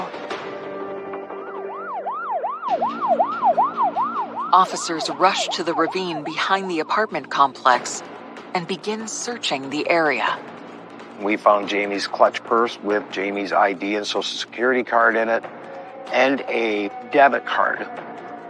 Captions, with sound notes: and then he disappears from view. [sirens wailing] - Officers rush to the ravine and d gin n archchg ththareaea - - fouou Jamam's c ctchh pupue wiwi Jamam's I I an ansocici sececity y rd in i iand d debibit rdrd.